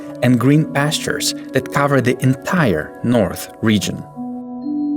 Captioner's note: none